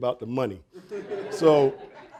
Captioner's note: audience laughing; laughs